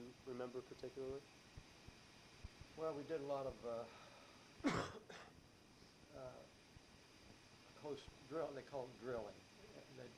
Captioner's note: coughs